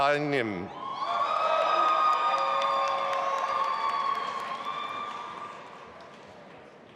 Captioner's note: audience applauding and cheering